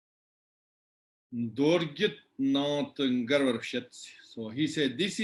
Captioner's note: tibetan